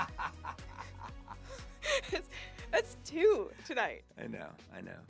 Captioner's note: laughs